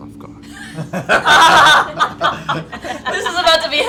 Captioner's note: laughter